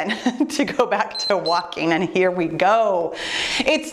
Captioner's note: timer beeps